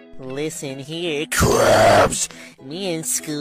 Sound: evil dragon voice

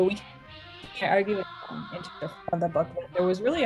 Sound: soft music; audio distortion

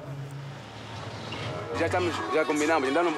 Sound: Portuguese spoken audio

